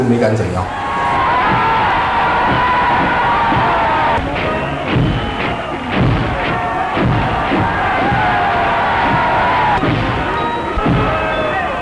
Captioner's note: cheers